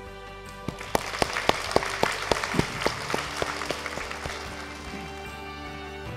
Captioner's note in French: Applaudissements